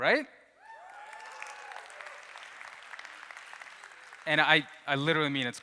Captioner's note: audience cheers